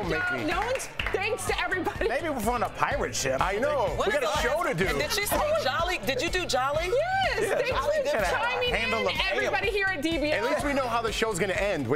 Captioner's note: cheers & applause